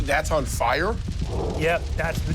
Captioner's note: fire crackles